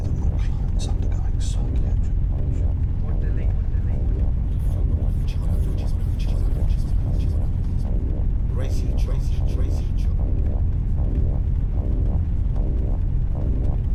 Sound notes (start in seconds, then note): 4.5 voices echoing